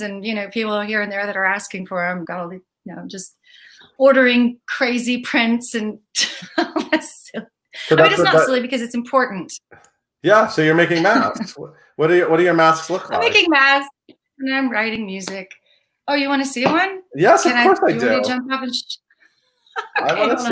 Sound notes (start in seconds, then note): 5.8 laughs; 19.8 laughs